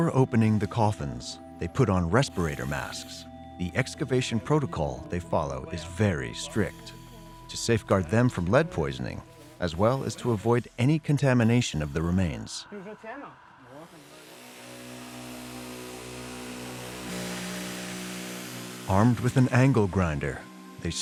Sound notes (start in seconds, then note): 13.7 grinding